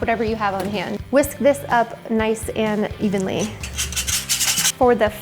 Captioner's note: whisk scrapes